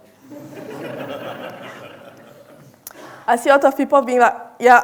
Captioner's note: audience laughing